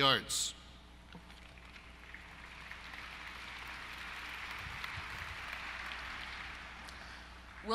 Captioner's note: applause